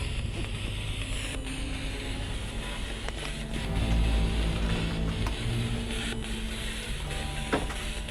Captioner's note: static continues